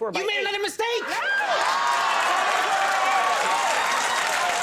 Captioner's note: yelling; audience cheers